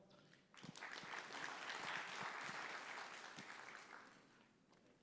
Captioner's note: applause